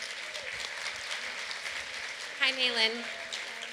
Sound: applause

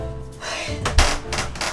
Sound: assistant exhales; wood creaking

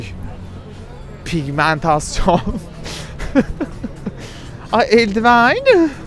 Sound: laughs

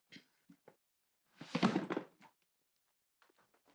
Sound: cabinet closes

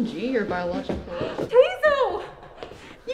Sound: gasp

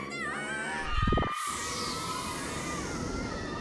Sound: all screaming

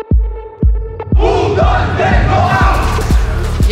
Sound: team chanting

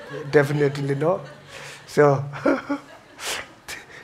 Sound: laughs

